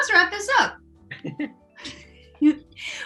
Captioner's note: all chuckle